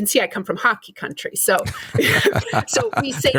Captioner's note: laughter